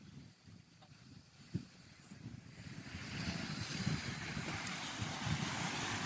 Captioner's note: wind